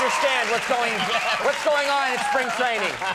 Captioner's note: laughs